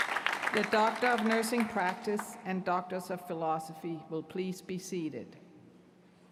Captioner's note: cheers & applause